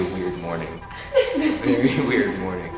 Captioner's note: girls laugh